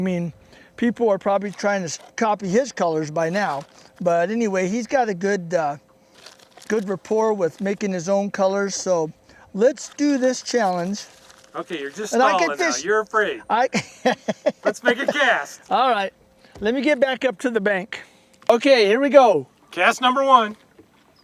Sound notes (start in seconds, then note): 13.7 laughter